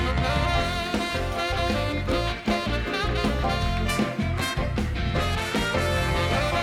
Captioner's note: bright music continues; audience applauding